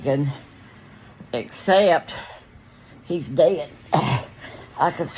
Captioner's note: grunts